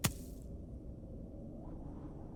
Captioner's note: ripping